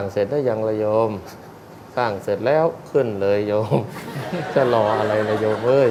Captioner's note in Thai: หัวเราะ